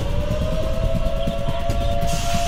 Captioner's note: sirens